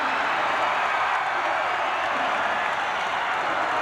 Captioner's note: crowd cheers